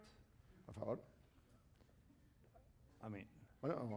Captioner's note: speaking spanish